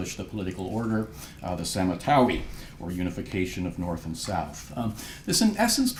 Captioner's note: non-english